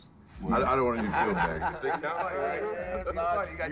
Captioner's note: laughter